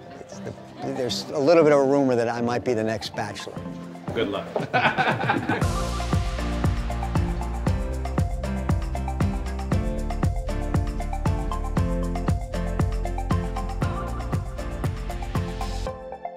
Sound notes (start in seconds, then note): 4.5 laughter